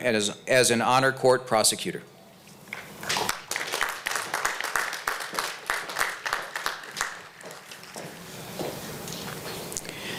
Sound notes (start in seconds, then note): 3.1 applause